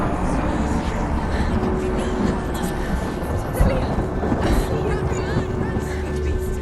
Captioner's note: indistinct chatter